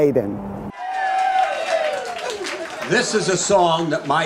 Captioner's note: audience cheering